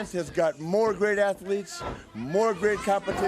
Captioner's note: crowd chatter